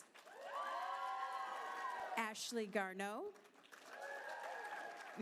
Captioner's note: applause